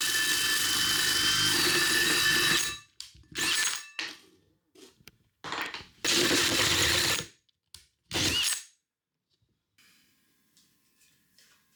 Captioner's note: saw buzzing